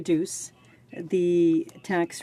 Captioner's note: speaking french